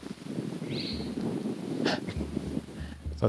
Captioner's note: louder distant whistle